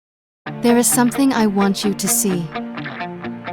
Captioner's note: Voiceover; dramatic music